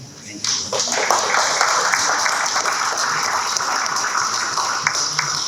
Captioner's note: audience clapping